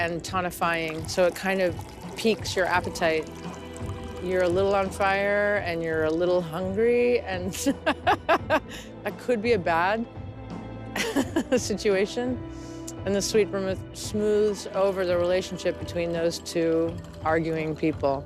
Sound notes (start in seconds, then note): 7.6 chuckling; 7.8 laughs